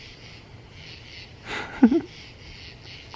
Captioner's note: chuckles